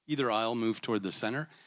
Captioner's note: none